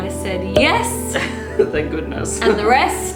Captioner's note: laughing